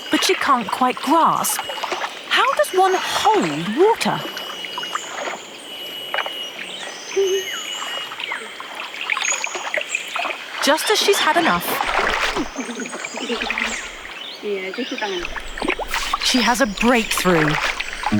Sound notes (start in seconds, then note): 4.5 birds chirping; 14.9 in foreign language